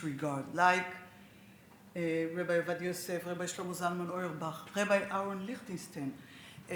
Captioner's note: speaks Hebrew